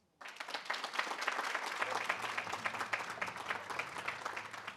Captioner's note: audience applauding